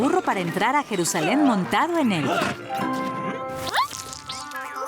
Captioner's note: grunting; slurp